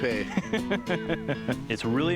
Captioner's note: laughs